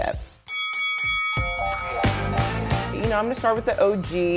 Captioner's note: bell dings